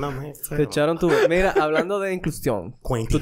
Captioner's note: laughs